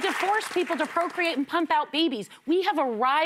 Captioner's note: cheers and applause